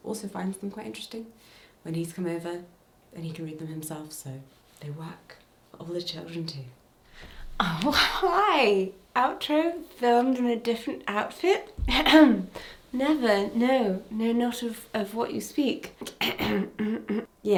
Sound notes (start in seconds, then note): 11.7 clears throat; 16.2 clears throat